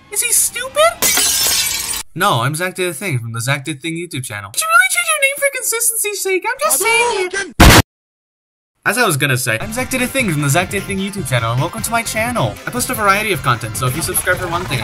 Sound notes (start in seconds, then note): 1.0 glass breaks